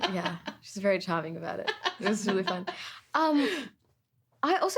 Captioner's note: laughing